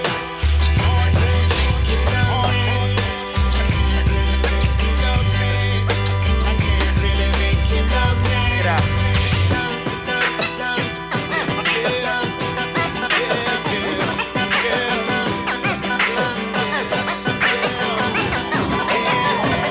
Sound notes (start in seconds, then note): 9.0 beatboxing; 15.5 continued beatboxing; 17.7 audience cheering